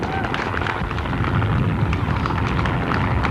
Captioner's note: sounds of Helicopter